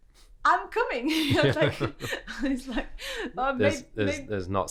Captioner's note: laughs